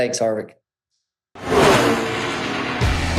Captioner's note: engine roaring; upbeat music